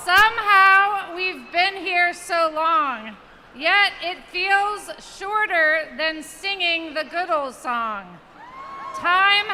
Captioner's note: cheers